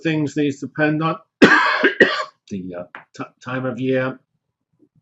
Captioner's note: cough